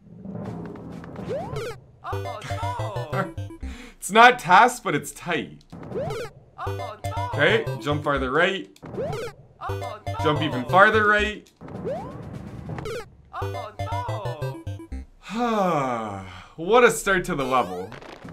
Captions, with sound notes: [laughs] It's not TAS, but it's tight. Okay, jump farther right. Jump even farther, right. [sigh] What a start to the level.